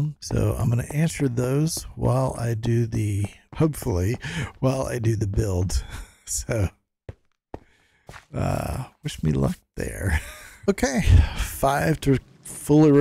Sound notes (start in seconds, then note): 9.7 laughs